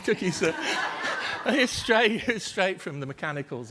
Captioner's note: group laughter